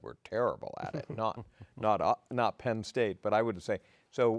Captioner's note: laughing